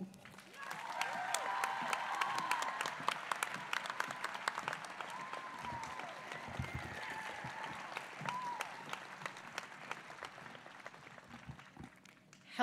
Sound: applause

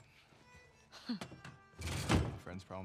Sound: laugh

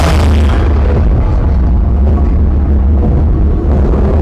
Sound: explosions

